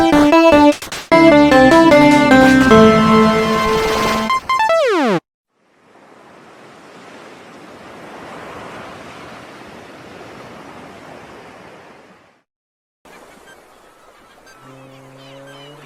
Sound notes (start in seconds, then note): 13.2 birds chirping